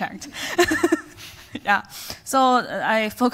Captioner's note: laughs